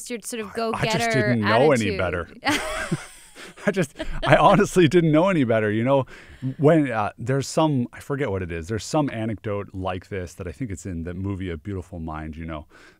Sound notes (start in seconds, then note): 2.4 laughs